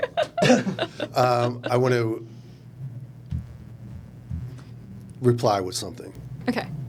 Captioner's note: laughter